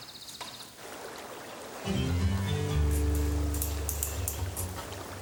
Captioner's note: water running